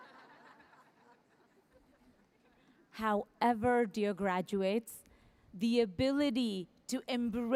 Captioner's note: laughter